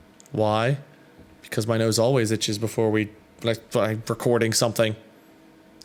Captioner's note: stutters